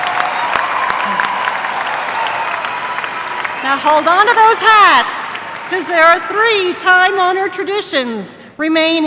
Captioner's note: applause